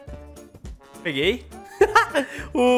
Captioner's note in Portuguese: risos